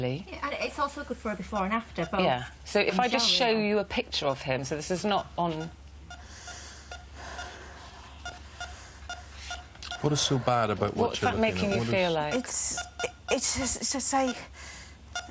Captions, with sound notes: Yeah and it's also good for a before and after So if I just show you a picture of him, so this is not on.... *heavy breathing* What is so bad about what you're looking at? What is that making you feel like? It's, it's it's just a.....ughhhh Right I'll stop now, I'll stop now, but that, we